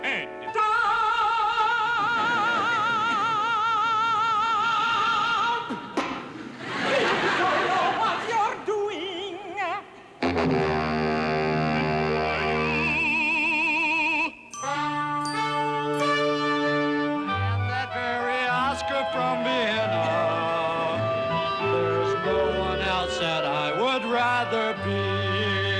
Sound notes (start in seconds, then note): 5.2 spits; 9.7 ominous music